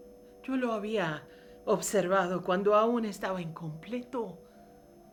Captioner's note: speaking in foreign language